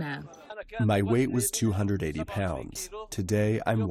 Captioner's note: through translator